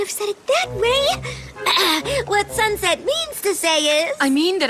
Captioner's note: clears throat